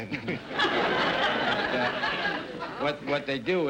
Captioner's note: audience laughter